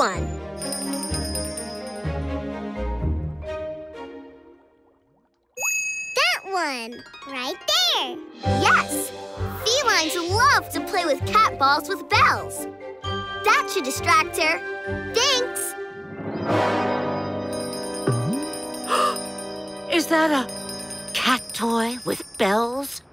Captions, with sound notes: [bell ringing] That one, right there! Yes, felines love to play with cat balls with bells! That should distract her, thanks! [bell ringing] [gasps] Is that a cat toy with bells?